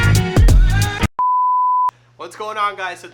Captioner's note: jazzy music; beep